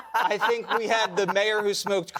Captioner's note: laughter